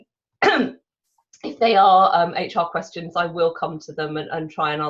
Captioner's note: coughs